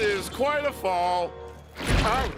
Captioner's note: splat